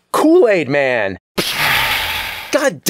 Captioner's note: pshaaa!